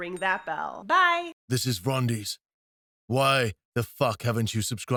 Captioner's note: rumbling Male Voice